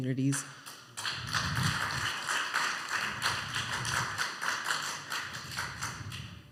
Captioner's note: applause